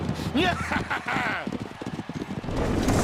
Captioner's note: triumphant chuckles